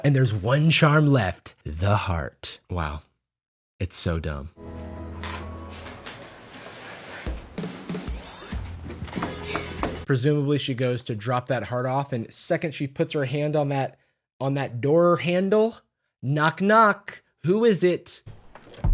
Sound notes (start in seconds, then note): 9.9 knocking